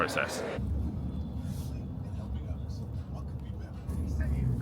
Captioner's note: car engine humming